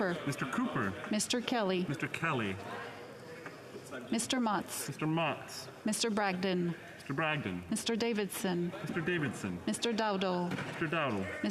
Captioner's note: calling of recorded vote